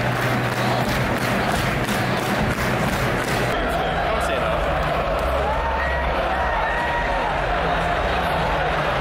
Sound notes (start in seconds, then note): 4.5 crowd yelling